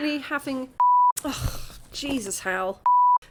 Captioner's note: sigh